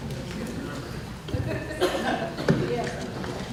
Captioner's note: laughter